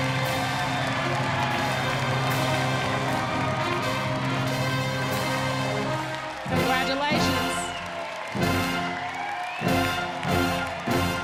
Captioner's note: cheers and applause